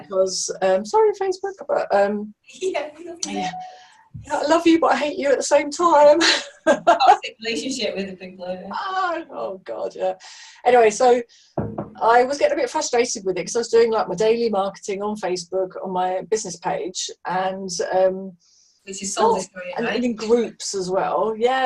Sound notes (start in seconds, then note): 6.5 chuckles